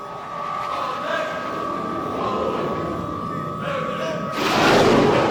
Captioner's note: jet engine whooshing